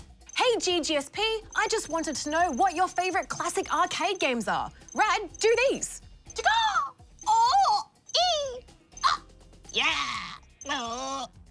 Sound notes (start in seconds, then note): 6.5 makes funny noises